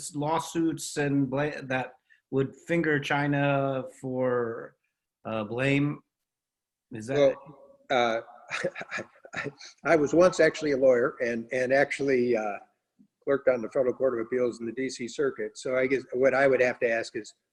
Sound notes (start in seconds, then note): 7.9 laughing